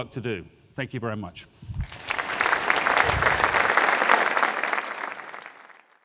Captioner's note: audience applauding